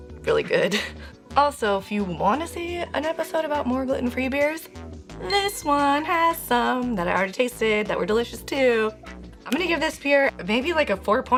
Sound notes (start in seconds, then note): 1.6 laughs